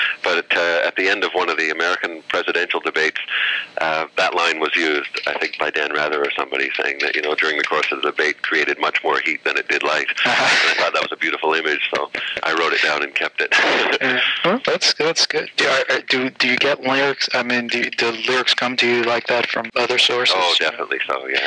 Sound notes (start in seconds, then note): 10.1 laughter